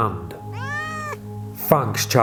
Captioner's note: cat meows